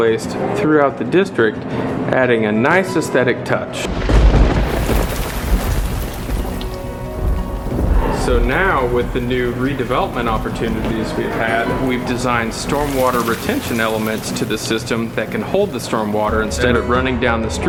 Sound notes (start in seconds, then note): 3.8 thunder and rain